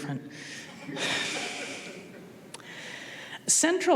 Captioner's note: audience laughing